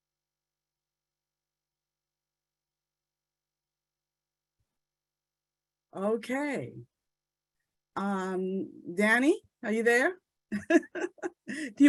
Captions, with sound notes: (silence continues) Okay. Danny, are you there? (laughs)